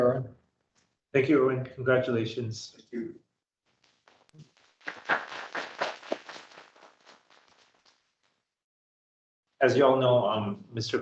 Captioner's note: applause